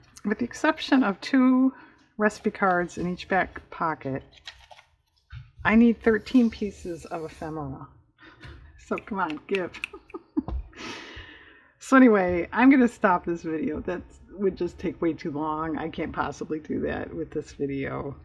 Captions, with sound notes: with the exception of two recipe cards in each back pocket, i need 13 pieces of ephemera so come on, give (laughs) so anyway i'm going to stop this video, that would just take way too long, i can't possibly do that with this video